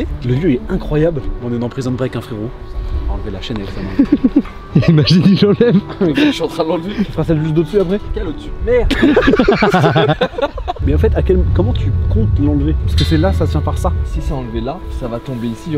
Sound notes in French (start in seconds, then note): 4.7 rire